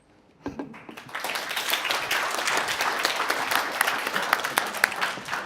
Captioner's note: audience clapping